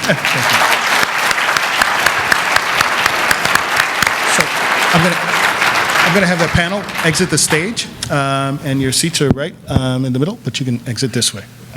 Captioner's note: applause